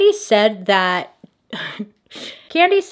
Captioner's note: slight laugh